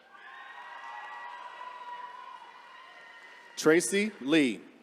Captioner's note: attendees cheering